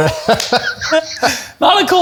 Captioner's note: chuckles